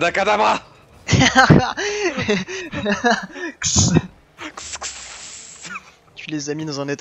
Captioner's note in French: Rires, bruitages